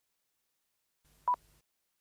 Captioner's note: beeps